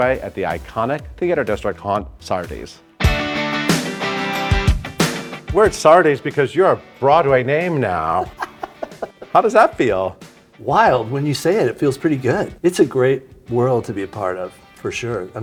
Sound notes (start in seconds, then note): 2.9 upbeat music; 7.9 Cameron laughing